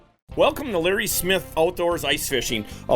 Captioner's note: voiceover